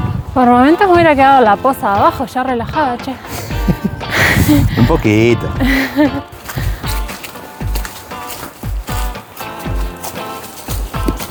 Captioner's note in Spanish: risas